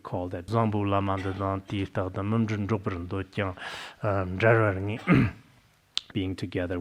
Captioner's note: citing scripture in Tibetan